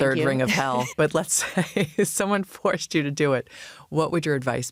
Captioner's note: laughs